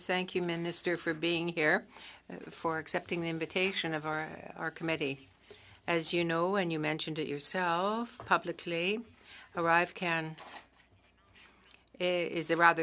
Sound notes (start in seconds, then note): 6.6 speaking French